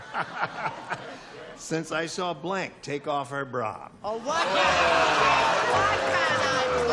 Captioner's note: laughs